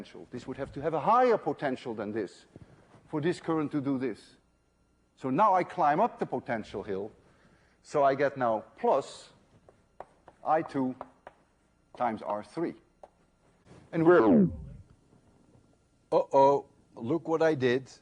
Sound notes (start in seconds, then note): 14.0 recording slows down